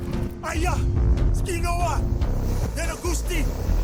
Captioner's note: speaking Cherokee language